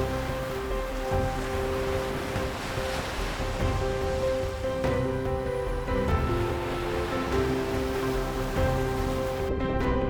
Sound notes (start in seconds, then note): 0.1 dramatic music; 3.3 water splashing